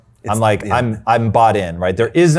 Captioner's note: murmuring